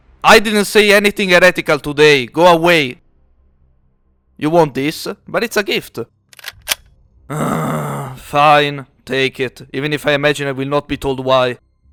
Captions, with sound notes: I didn’t say anything Heretical today, go away You want this? But it’s a gift *groan* Fine, take it even if I imagine I will not be told why